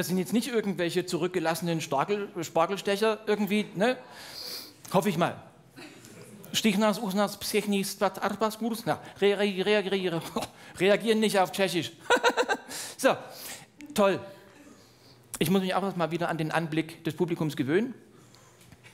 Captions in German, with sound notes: Das sind nicht irgendwelche zurückgelassenen Spargelstecher. Hoffe ich mal. *Spricht ausgedachtes Tschechisch.* Reagieren nicht auf Tschechisch. Toll. Ich muss mich auch erst an den Anblick des Publikums gewöhnen.